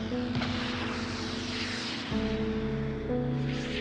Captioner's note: explosion roaring